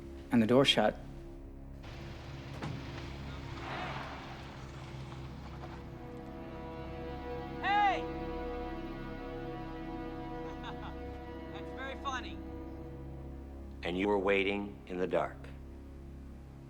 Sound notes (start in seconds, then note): 1.8 door thudding; 10.5 laughs